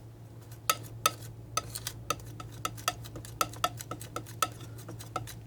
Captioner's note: scraping